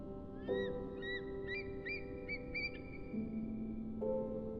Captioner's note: bird screeching